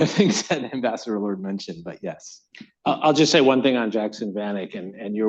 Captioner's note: laughs